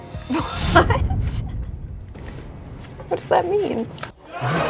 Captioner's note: laughing